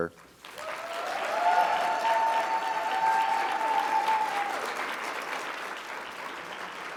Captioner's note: audience applauding; audience cheering